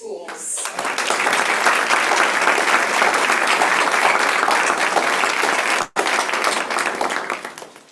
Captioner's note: applause